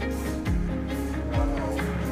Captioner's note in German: Stimmengewirr